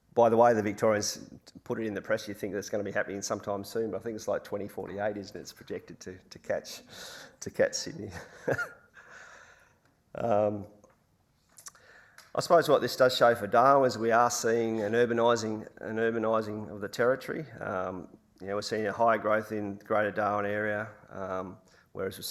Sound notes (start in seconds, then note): 8.1 laughs